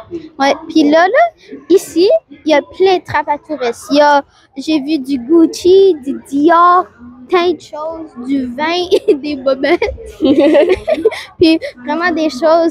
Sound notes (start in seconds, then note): 8.8 laughs